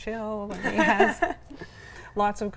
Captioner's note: laughs